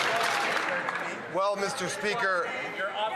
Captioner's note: some Applause